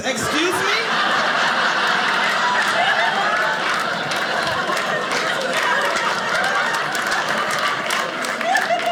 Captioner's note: audience laughing